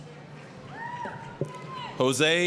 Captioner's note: applause, cheering